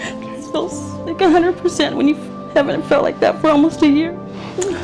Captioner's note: patient cries